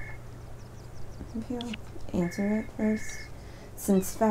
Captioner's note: phone ringing